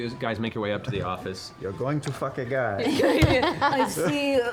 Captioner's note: Sudis voice